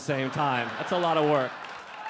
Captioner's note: audience laughing